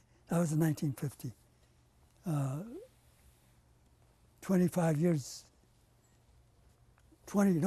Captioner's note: pauses for 3 seconds